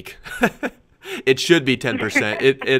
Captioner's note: laughs